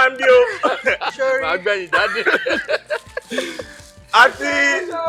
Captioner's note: laughs